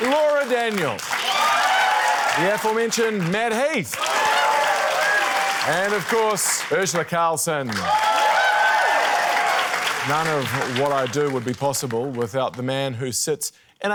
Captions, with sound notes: Laura Daniel,... (CHEERING, APPLAUSE) the aforementioned Matt Heath,... (CHEERING, APPLAUSE) and, of course, Urzila Carlson. (CHEERING, APPLAUSE) None of what I do would be possible without the man who sits